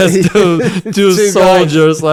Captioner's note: laughs